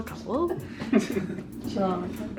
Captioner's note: men laughing